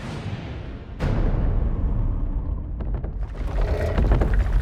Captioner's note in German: Schritte hallen